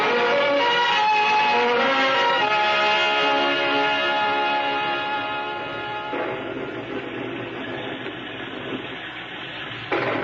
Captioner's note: horns blaring